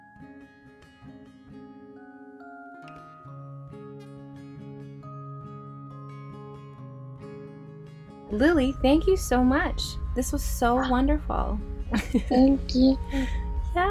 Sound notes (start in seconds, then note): 0.3 acoustic lullaby music; 12.0 laughs